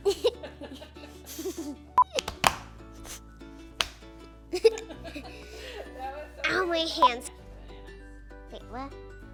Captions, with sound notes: (slapping) (chuckling) Ow, my hands. Wait, what?